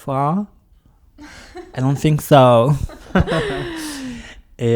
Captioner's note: laughs